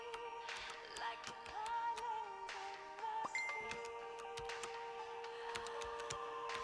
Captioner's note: message beeping